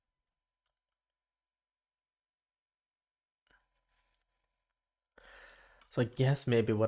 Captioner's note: silence